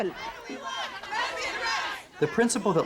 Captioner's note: people chanting